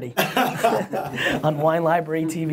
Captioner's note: laughs